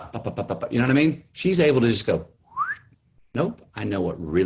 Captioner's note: whistles